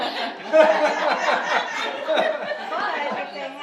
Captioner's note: audience laughing